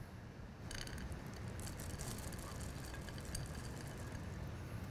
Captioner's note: chips rattling